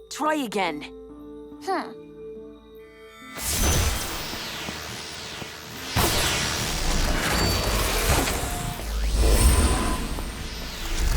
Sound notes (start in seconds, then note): 1.3 Terra hums; 3.4 magical buzzing